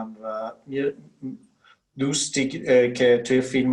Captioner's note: speaking Farsi